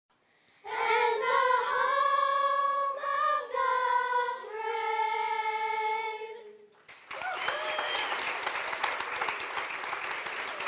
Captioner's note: applause